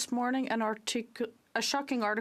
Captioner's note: speaking French